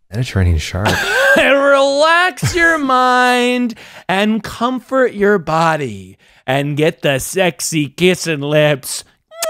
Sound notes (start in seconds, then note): 0.8 laughing; 9.3 making kissing sounds